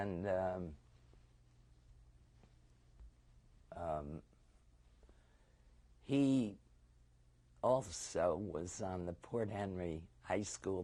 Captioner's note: pauses for 6 seconds